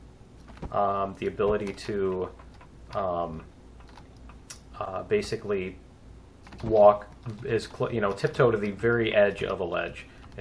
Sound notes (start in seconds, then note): none